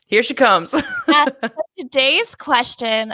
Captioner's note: laughs